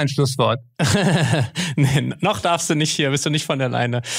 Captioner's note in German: lacht